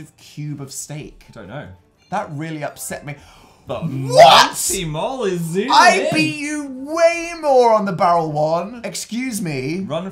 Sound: a breath

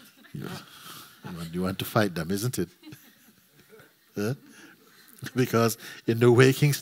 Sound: laughter

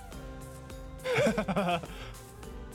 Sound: chuckles

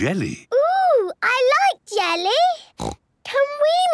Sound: snorts

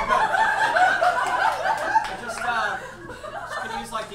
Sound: audience laughs

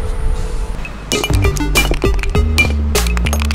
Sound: hammer banging; slow digital music

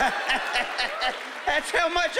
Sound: laughing

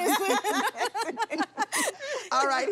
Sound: laughter

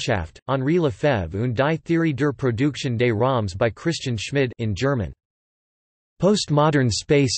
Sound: in German

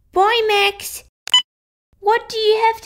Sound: beep!

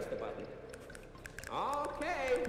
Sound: snapping

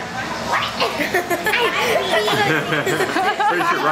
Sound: laughing

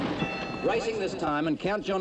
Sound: bell dings

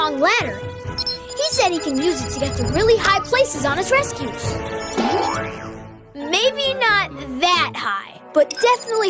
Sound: boing

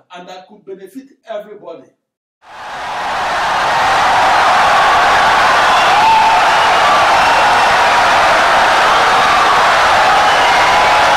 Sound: wild applause and cheering for 17 seconds

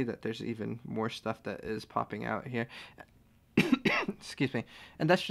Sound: cough

